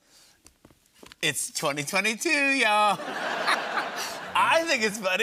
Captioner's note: laughter